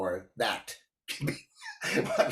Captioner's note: laughs